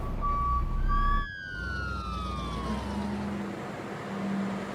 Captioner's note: ambulance wailing